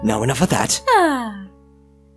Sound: happy noise

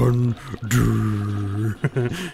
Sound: chuckles

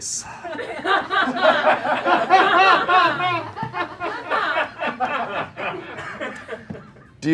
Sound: laughter

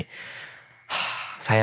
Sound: heavily breathing

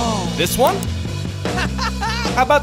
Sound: laughing

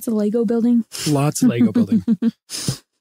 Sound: laughing

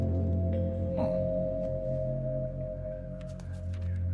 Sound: muted surprise

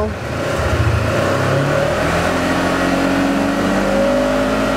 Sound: engine revs

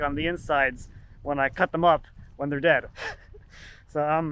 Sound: chuckles

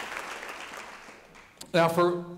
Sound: audience applauding

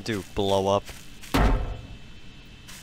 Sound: clang

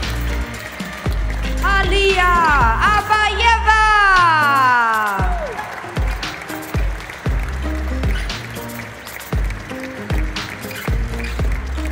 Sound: applause; applause

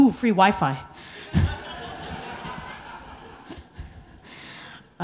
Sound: audience laughing

